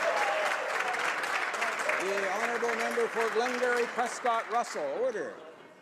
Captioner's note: some Applause